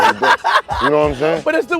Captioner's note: laughing